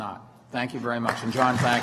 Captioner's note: applause